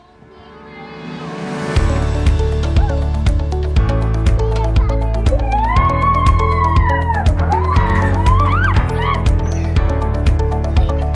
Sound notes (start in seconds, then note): 0.3 upbeat music; 4.8 girls exclaim